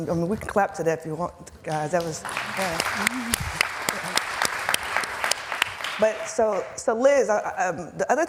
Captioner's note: applause